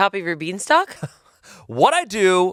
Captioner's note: laughs